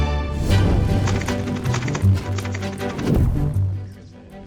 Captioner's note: upbeat classical music; fire crackling